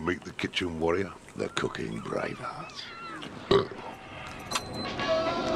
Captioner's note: burps